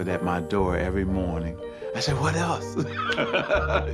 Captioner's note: laughs